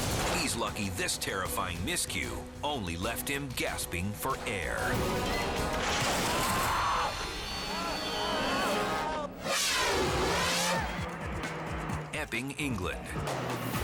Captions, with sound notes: he's lucky this terrifying miscue only left him gasping for air. (skier crashing) (crowd gasping) Epping, England.